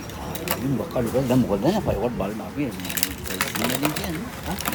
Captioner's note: Talking Sinhala